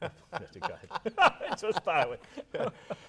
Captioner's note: laughing